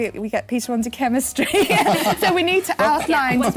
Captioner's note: laughter